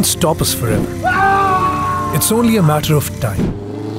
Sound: scream

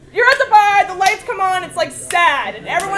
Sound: laugh

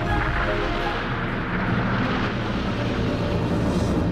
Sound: rumbling

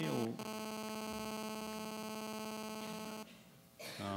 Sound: buzzing sound

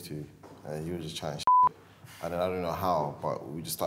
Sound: beeps

